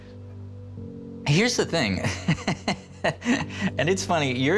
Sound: laughs

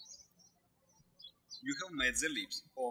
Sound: birds chirping

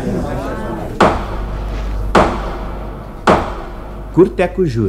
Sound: judge's hammer

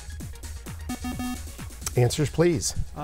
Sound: bell

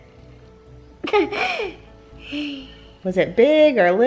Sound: laughs

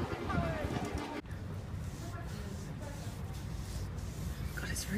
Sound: sound of arm rubbing against rough concrete

